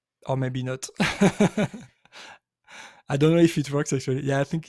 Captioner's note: laughs